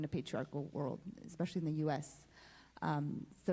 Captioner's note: Spanish